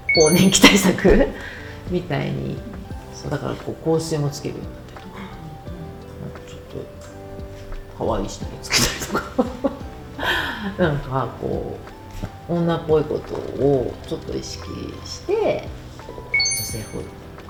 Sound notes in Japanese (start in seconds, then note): 8.6 笑い